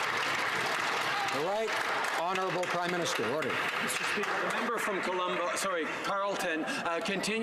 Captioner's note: applause